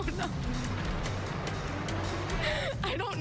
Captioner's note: chuckles